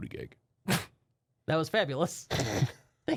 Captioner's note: softly chuckles